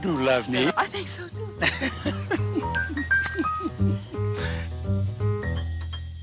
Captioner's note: laugh